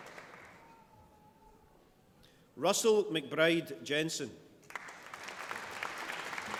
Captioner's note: applause